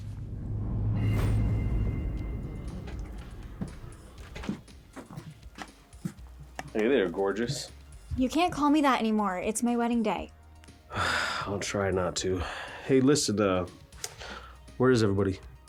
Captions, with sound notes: (tense music) (footsteps tapping) - Hey there, gorgeous. - You can't call me that anymore. It's my wedding day. - (sighs) I'll try not to. Hey, listen, uh, where is everybody?